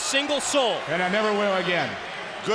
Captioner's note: crowd cheering